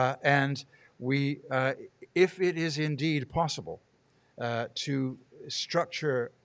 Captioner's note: none